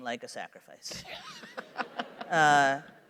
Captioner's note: laughter